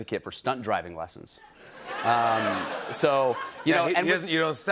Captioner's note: laughter